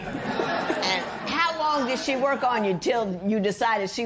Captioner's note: laughter